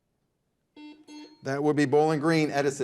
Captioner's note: buzzer buzzes